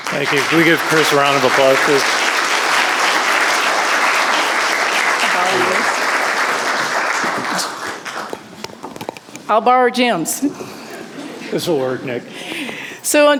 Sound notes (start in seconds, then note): 2.6 audience applauding